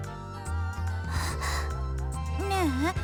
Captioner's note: relieved gasp